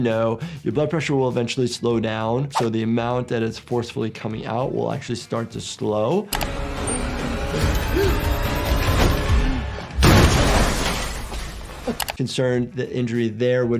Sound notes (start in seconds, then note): 6.3 digital beeping; 6.4 dramatic music; 10.0 explosion